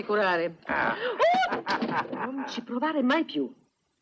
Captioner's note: chuckling; screams